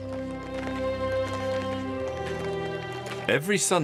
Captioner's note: Evzones marching